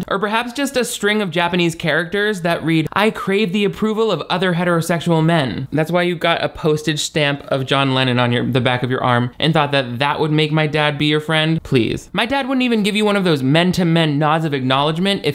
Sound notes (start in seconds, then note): none